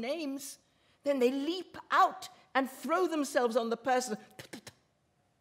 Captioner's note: she spits